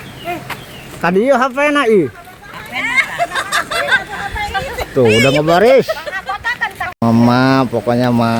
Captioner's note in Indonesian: tertawa